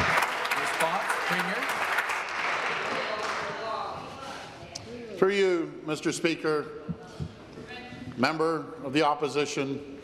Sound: applause

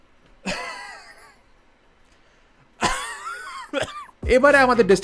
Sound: coughing till his soul comes out

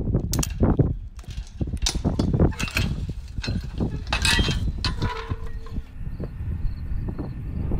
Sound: wind blowing loudly; lock locking; crickets chirping

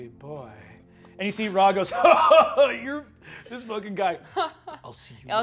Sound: laughing

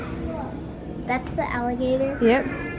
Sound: child's Voice

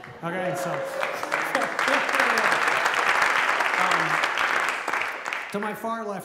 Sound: applause

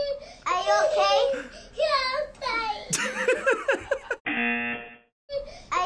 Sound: buzzer

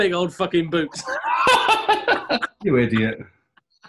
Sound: laughing

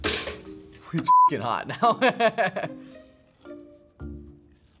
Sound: laughs

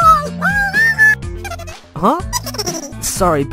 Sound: buddy cut boy giggling

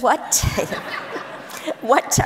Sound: audience laughs

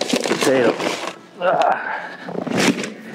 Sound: groans

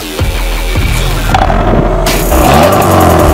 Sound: vroom; vroom intensifies

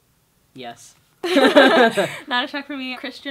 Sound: laughter

